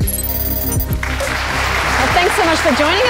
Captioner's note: applause